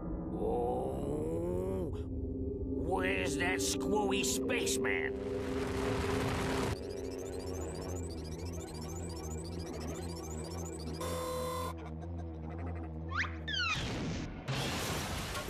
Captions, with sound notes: OH! WHERE'S THAT SCREWY SPACEMAN? [electronic humming] [whirring]